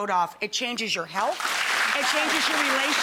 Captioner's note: audience clapping